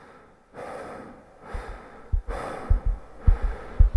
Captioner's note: heavy breathing; heart pounding